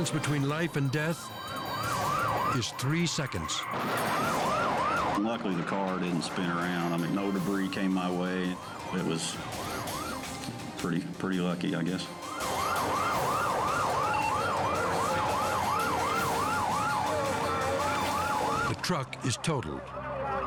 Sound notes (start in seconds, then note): 3.4 crash roars; 12.1 sirens wail; 13.7 radio beeps; 14.7 operator chatters